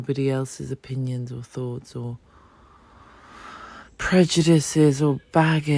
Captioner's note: sigh